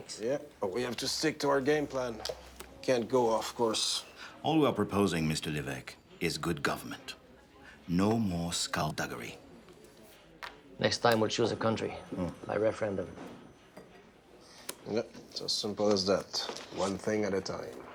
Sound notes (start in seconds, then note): none